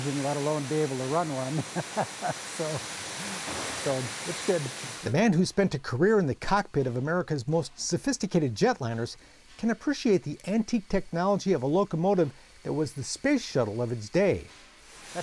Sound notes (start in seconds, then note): 1.4 chuckling